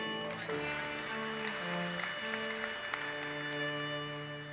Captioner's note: audience applauses